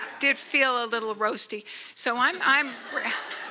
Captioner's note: laughter